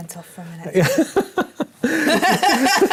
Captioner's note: laugh